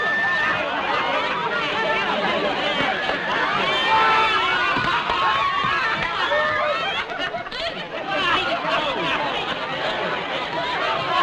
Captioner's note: raucous laughter